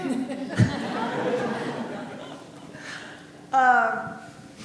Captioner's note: audience laughing